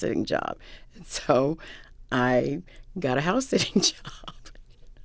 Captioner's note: laughter